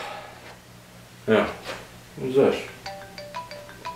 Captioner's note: phone rings